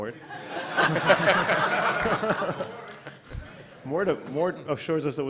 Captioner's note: laughter